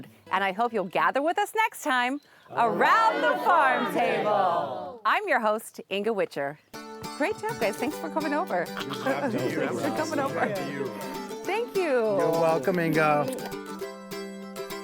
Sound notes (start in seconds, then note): 7.2 people chatting